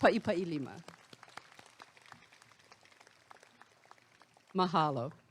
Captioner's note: applause